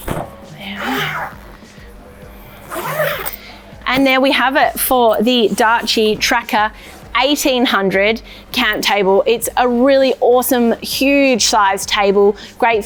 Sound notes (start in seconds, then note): 2.3 zip closes